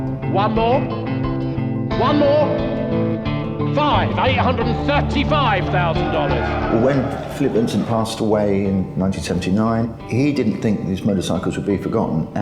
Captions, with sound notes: One more, one more? Five, $835,000! (cheering) - When Philip Vincent passed away in 1979, he didn't think his motorcycles would be forgotten